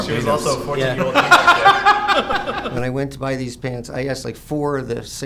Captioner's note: laughs